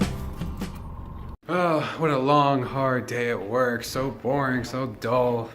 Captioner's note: groans, exaggeratedly